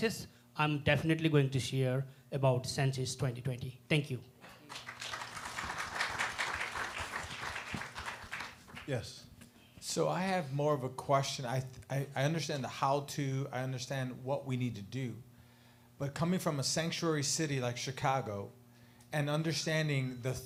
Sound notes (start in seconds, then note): 4.6 applause